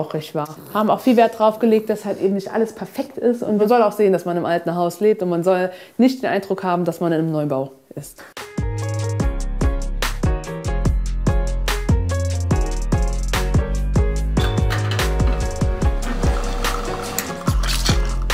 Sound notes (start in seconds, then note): 10.5 loose music; 14.4 clattering